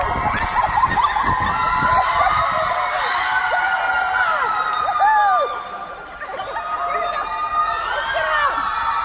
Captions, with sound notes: [actors laughing] Woo-hoo! Look at 'em!